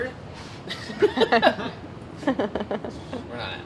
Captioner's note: laughing